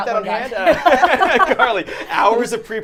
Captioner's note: all laughing